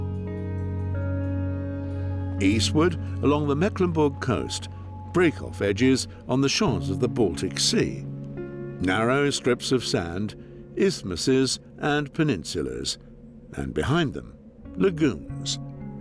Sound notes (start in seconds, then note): none